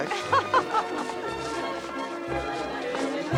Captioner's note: Bess laughing; melodic orchestral music